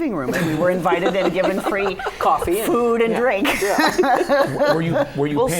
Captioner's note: laughter